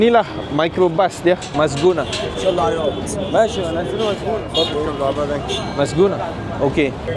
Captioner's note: speaking Arabic